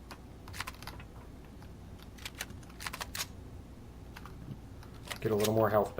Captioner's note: weapons click; reloading